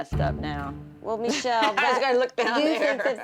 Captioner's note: laughing